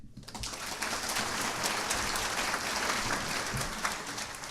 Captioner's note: audience applauding